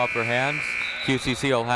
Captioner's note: buzzer ringing